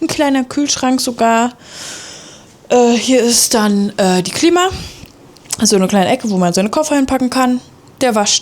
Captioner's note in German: japst